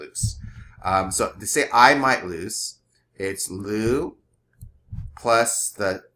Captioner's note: speaking greek